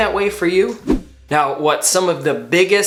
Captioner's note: swoosh